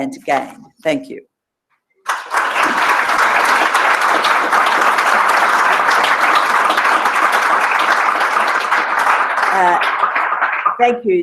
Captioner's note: applause